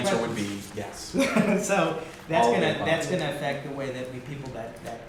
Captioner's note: laughter